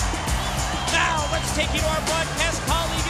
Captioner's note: crowd cheering